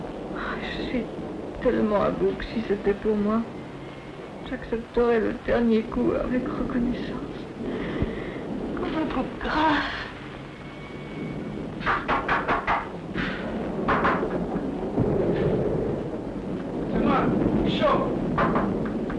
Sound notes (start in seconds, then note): 11.8 knocking at the door